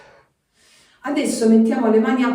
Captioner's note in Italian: sospiri; suono gutturale; sbuffare